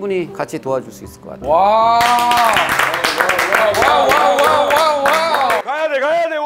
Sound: round of Applause

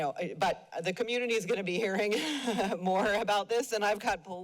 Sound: chuckles

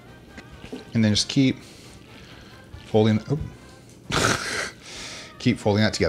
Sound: laughing

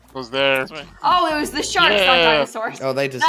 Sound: laughing

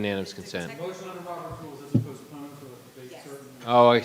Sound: participant murmurs

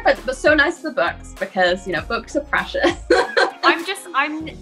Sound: laughs

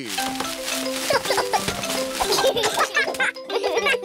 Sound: peppa and george giggle

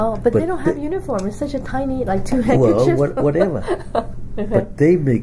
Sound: laughs

